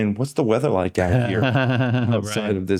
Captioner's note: laughing